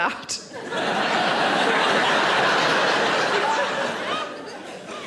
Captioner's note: audience laughing